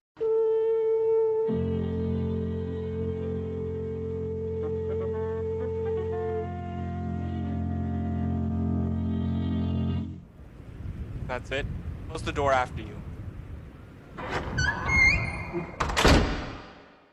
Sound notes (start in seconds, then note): 11.7 wind; 14.1 door closes, wind stops